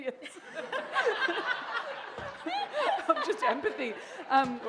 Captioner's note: laughter